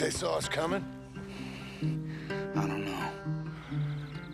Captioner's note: sighs